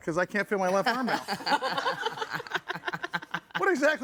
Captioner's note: all laughing